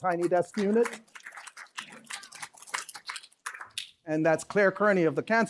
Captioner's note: applause